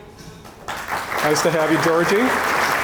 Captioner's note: audience applauding